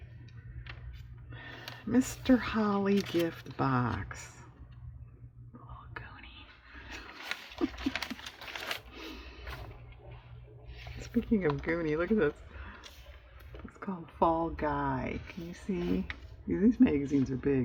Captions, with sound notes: "Mr. Holly gift box," kind of goony (laughs) speaking of goony, look at this, it's called "Fall Guy," can you see? these magazines are big